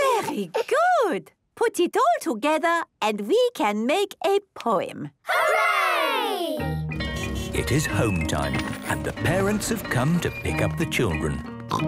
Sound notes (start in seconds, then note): 7.1 bell ringing, beeping